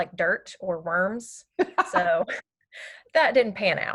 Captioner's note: laughter